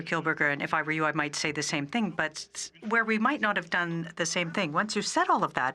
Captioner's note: speaking French